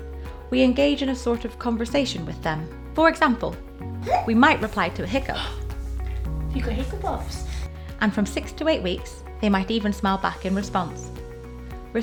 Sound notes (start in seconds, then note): 4.0 gasps; 4.0 hiccups